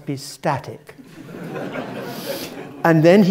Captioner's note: laugh